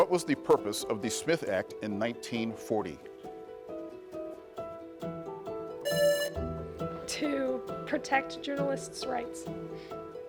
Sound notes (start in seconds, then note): 3.7 pensive music continues; 5.8 buzzer rings; 10.0 pensive music continues